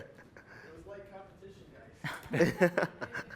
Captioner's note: laughter